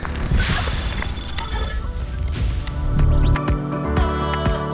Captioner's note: electric warbling; upbeat pop music